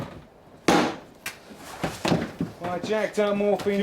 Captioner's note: box thudding